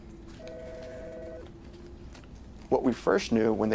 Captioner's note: phone ringing